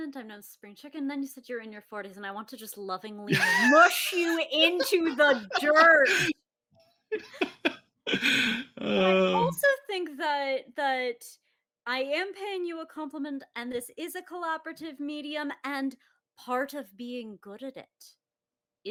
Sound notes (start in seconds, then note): 7.1 laughs